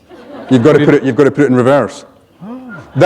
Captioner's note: laughter